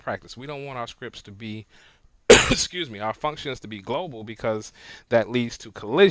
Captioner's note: coughs